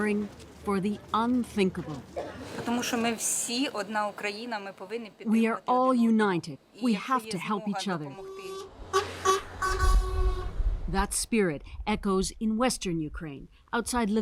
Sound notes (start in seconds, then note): 5.6 speaking Foreign Language